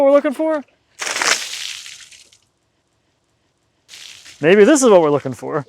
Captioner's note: water splashing